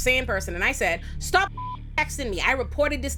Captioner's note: beep